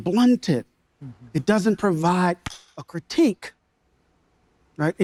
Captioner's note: palms thudding